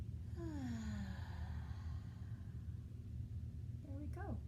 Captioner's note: inhale; exhale